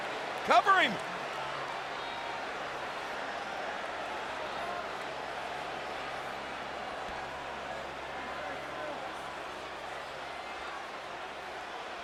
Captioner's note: applause